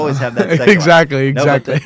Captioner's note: laughs